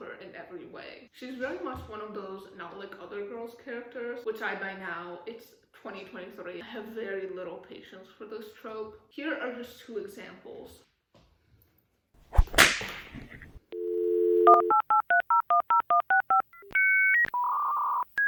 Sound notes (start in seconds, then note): 10.8 dial-up sound; 10.8 snap